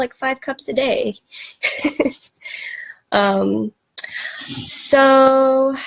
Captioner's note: laughs